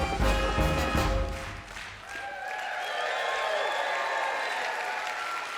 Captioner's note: cheers and applause